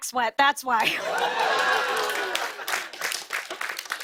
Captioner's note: cheers and applause